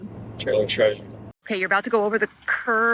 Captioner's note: laughs